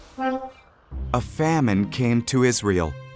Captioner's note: computer Voice